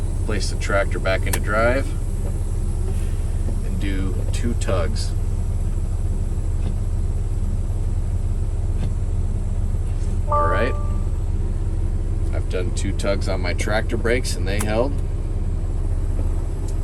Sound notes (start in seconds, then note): 5.6 trailer brakes engage; 10.3 computer sound